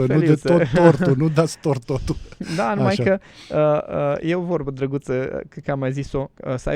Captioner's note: laughter